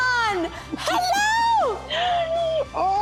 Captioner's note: laughing